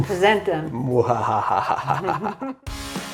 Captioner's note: evil laughs